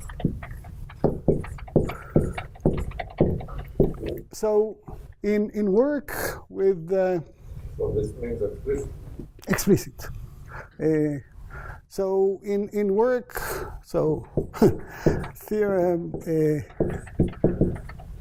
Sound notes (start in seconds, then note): 14.5 laughs